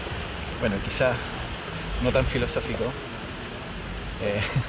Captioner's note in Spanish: risas